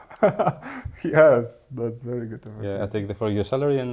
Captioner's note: laughs